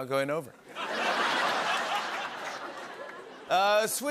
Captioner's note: laughter